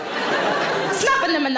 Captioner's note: audience laughs